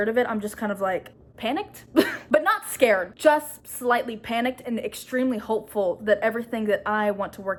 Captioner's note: laughs